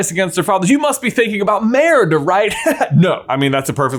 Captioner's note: laughs